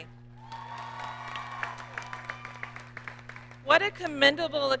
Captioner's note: audience cheers and applauds